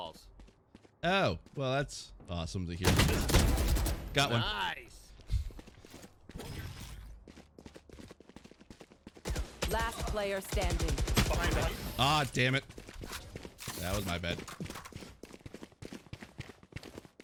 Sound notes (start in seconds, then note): 2.8 gun shots; 9.3 gun shots in the distance